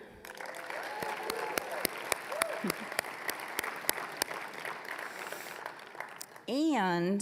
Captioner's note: applause, cheering